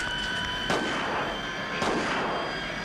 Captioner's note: jet engine noise, quick footsteps; jet engine noise; gunshot; jet engine noise